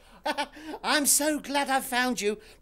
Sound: laughs

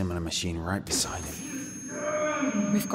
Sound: high pitched whine, screams

